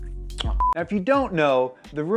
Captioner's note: beep